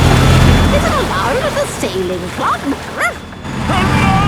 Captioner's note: barks